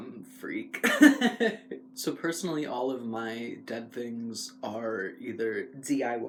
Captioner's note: laugh